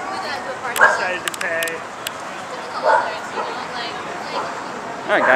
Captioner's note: people Talking, Dogs Barking